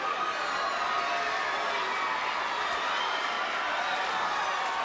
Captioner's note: crowd cheering